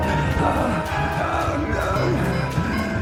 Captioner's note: Cooper groaning